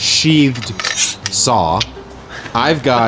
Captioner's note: metal rasping